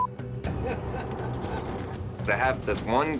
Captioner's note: laughing